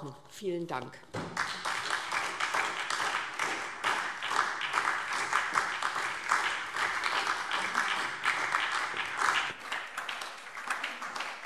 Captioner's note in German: Beifall SPD